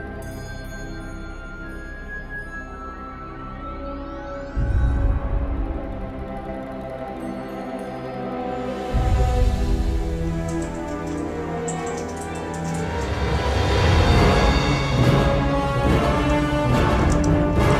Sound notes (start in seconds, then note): 0.0 bells chime; 7.0 bells chime; 14.3 dramatic music